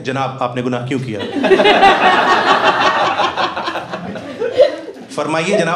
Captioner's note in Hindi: हँसना